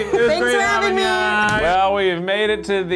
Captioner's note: slaps